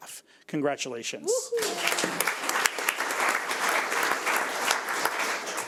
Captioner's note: audience applauds